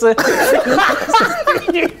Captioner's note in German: Schallendes Lachen